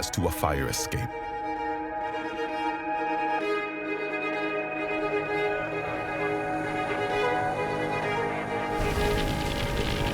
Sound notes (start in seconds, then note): 2.4 tense dramatic music; 8.7 fire crackling